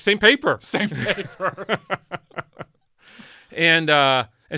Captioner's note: men laugh